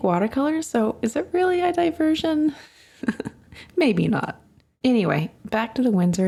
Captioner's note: chuckles